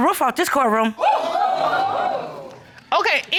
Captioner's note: audience exclaiming